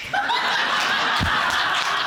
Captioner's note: audience laughing